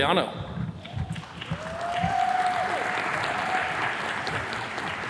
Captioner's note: attendees cheers and claps